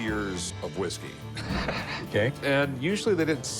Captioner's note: laughs